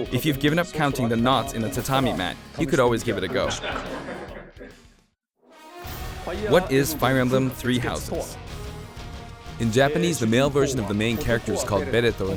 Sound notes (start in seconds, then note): 3.1 laughter; 5.4 epic brass music